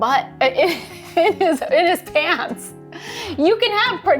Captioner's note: laughs